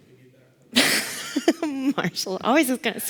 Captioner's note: laughs